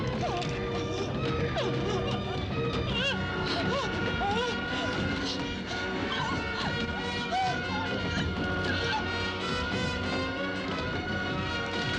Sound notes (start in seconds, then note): 1.8 whimpering; 5.6 dramatic instrumental music